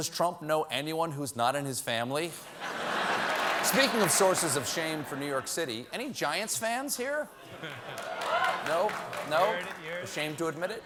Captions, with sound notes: AND "DOES TRUMP KNOW ANYONE WHO'S NOT IN HIS FAMILY?" ( LAUGHTER ) ( APPLAUSE ) SPEAKING OF SOURCES OF SHAME FOR NEW YORK CITY, ANY GIANTS FANS